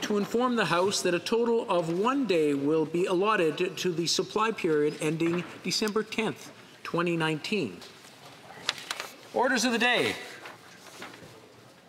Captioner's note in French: voix de l'interprète